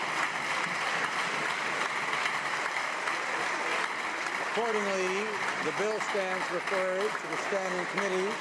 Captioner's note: cheers and applause